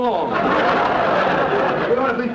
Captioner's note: audience laughter